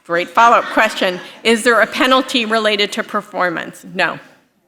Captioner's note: laughter